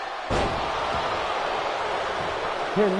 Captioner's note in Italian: Applauso